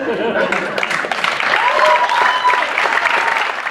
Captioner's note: applause